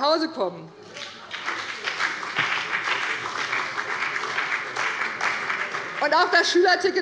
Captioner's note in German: Beifall bei der CDU und dem BÜNDNIS 90/DIE GRÜNEN